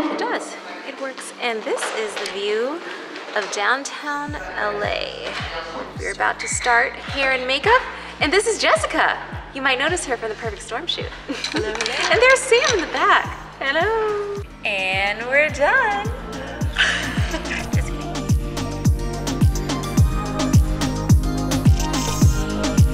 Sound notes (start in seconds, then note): 16.0 laughs; 18.3 upbeat music